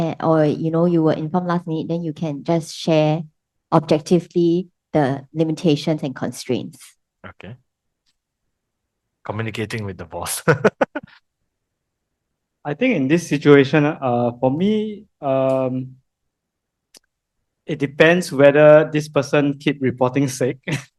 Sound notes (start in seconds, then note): 10.4 laughters